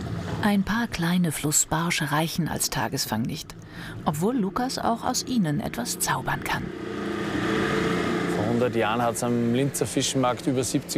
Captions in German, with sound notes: Ein paar kleine Flussbarsche reichen als Tagesfang nicht, obwohl Lukas auch aus ihnen etwas zaubern kann. (Motorenrattern) Vor 100 Jahren hat es am Linzer Fischmarkt